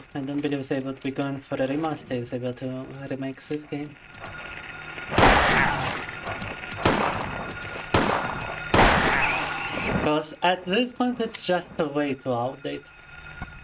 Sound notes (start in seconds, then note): 5.1 gunfire